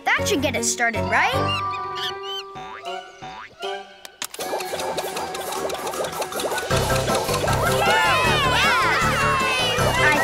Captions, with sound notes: That should get it started, right? (Monkey screeches) (playful music) (engine whirs) (everyone cheers)